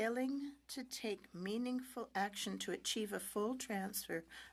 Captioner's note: speaking French